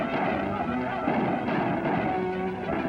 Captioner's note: gunshots